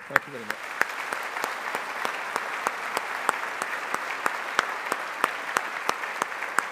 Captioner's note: all applauding